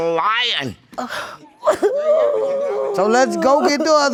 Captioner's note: sobbing